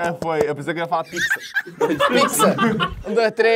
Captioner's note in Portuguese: risadas